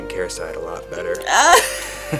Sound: laughing

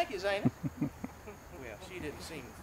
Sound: laughter

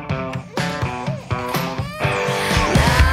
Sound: guitar playing; baby crying

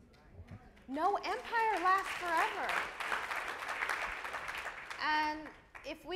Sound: audience applauds

